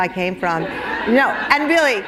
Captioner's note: laughter